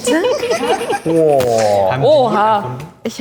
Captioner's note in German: lachen